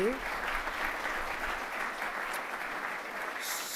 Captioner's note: applause